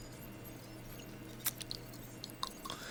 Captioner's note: smacking lips